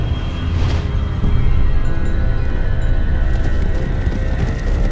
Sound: birds squawking and flapping; horse hoofs approaching

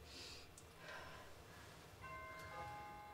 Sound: door bell rings

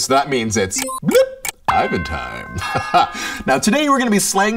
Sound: laughs

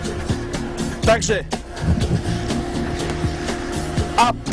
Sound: speaking polish

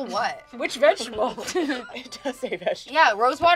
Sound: laughs

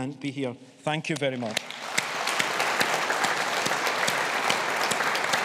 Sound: audience applauding

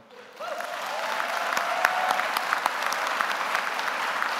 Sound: audience applauding

